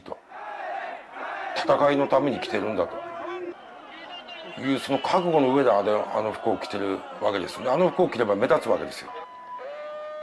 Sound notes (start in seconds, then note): 0.8 protestors shouting; 2.0 speaking in Japanese